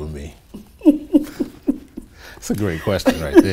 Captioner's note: laughs